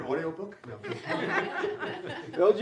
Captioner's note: laughter